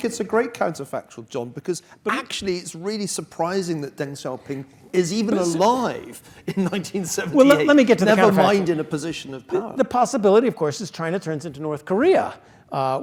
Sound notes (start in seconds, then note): 7.8 laugh